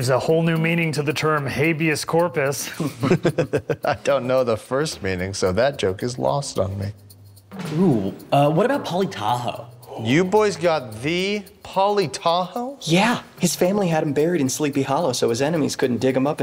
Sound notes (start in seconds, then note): 2.6 chuckle